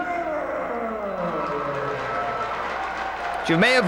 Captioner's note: spectators cheering and applauding